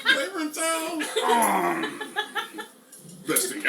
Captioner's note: groans; laughs